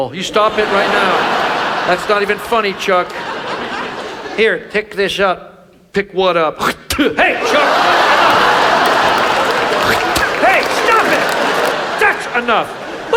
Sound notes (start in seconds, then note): 0.0 audience laughs; 6.5 Chuck spitting; 7.2 audience laughs; 10.0 Chuck spitting